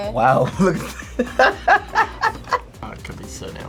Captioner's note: laughs